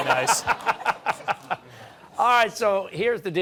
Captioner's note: laughter